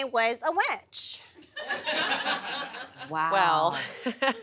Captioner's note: audience laughs